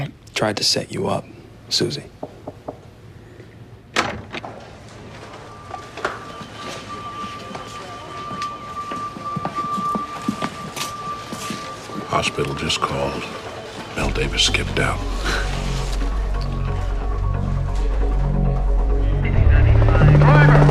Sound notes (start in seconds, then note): 2.2 door knocking; 19.4 man over bullhorn